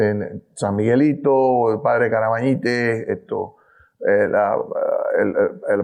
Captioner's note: speaking in foreign language